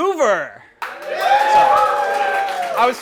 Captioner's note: applause